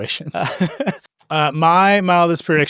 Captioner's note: laughing